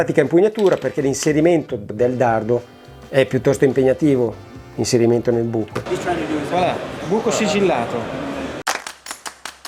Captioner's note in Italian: Applauso